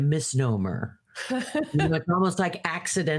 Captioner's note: laughing